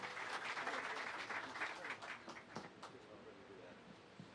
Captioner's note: clapping